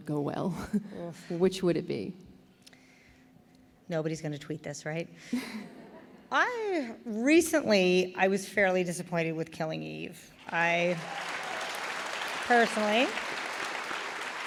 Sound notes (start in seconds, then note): 5.4 laughter; 10.4 applause